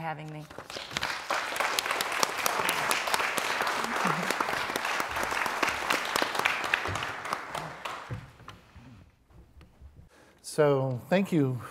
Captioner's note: applause